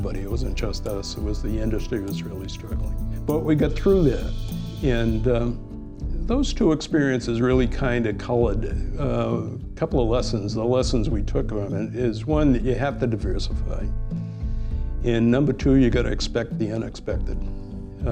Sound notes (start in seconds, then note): none